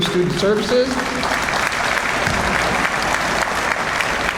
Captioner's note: audience applauds